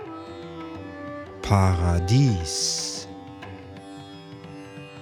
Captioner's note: german